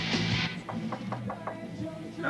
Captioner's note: knock on door